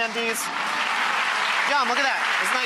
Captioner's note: audience applause